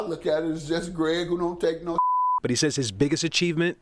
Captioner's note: beep